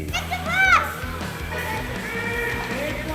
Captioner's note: crowd shouting